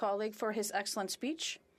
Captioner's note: speaking FRENCH